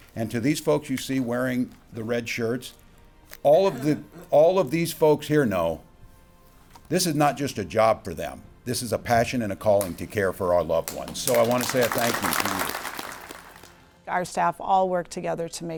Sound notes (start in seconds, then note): 10.8 audience applauds